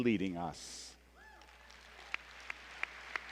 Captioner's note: applause